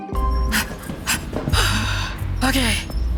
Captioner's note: sharp exhale